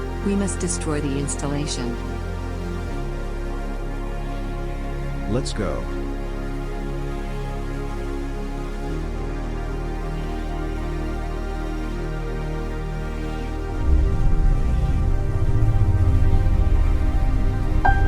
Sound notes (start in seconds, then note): 13.8 spacecraft whirring